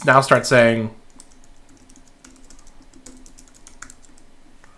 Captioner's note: keyboard clicking